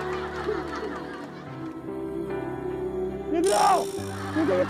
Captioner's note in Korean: 흑흑